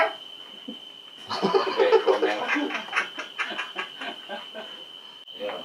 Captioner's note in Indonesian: ketawa monyet bingung